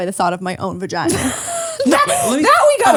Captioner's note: laughs